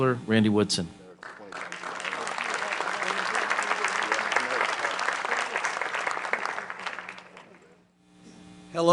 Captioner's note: applause